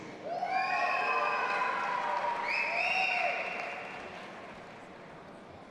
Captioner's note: audience applauding and cheering